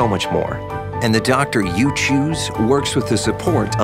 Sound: voiceover

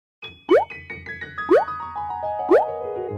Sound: bloop

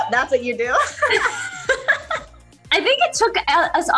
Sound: laughing

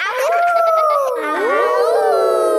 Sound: howling; kids howling

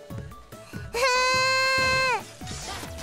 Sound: AI-chan frustrated noises

